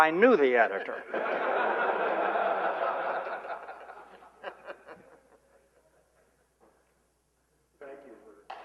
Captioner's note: laughter